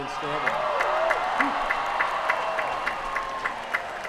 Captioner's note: cheering